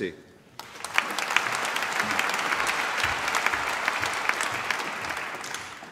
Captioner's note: applause